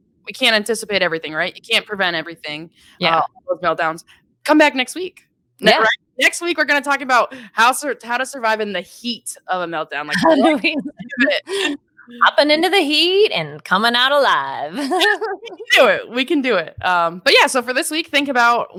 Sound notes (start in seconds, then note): 10.1 laughing; 10.2 speaking faintly; 14.7 laughing